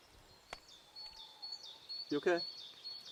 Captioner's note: birds chirping